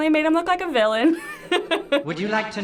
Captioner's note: laughs